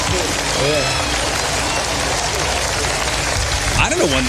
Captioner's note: applause